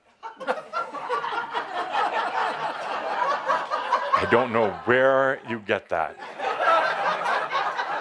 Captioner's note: laughter; more laughter